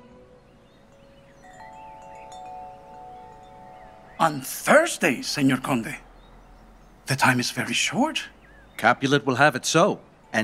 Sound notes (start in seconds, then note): 0.2 birdsong; 1.5 wind chimes ringing